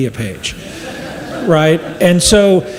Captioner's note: audience laughs